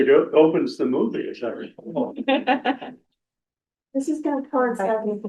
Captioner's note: laughter